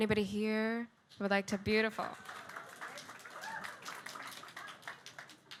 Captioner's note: audience clapping